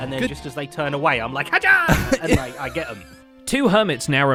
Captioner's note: laughs